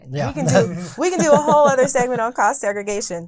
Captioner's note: laughing